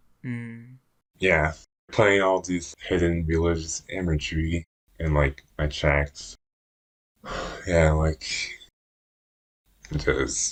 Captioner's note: sigh